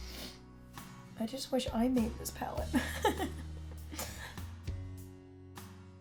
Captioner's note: laughs